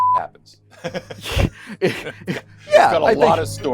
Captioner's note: both laughing